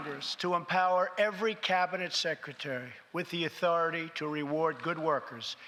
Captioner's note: applause